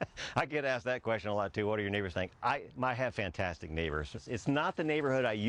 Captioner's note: laughs